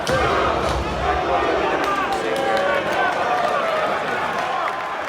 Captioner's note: crowd groans